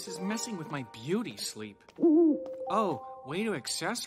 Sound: hooting

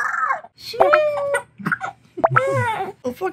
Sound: laughing

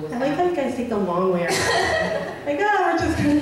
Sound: voiceover

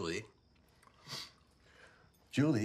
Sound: sniffs

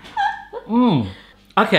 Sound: laughter

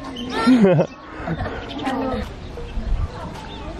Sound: laughs

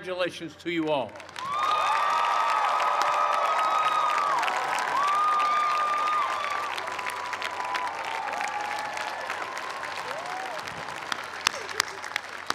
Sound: cheers and applause

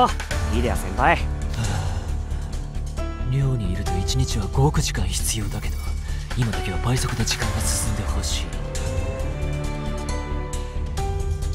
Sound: sigh

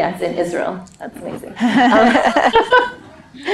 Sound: laughing

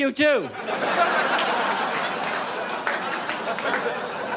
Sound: audience laughs

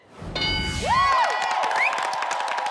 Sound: bell chiming; all cheering and clapping

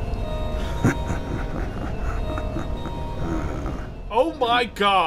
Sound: devious laughter

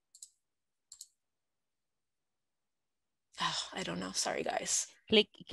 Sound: clicking

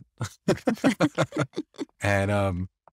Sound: everyone laughs

